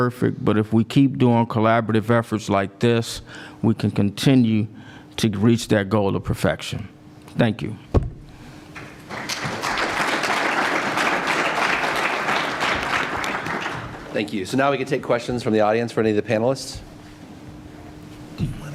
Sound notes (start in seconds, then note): 8.7 applause